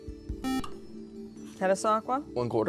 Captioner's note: buzzer